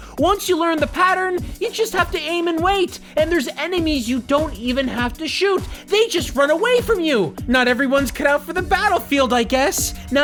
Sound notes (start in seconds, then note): none